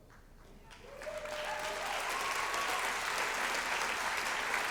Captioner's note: applause